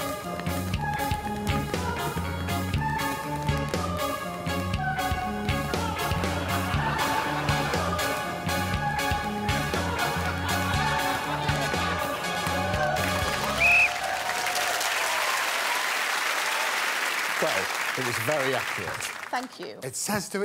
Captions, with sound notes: [laughing continues] [whistle blows] [crowd applauds and cheers] -Well it was very accurate. -Thank you.